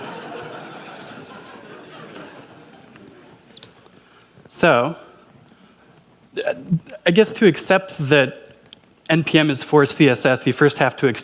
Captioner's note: laughter